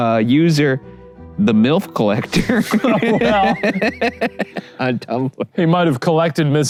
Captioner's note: both laughing